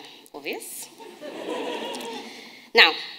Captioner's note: audience laughing